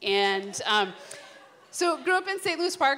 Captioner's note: laughter